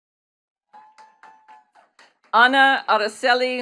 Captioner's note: attendees clapping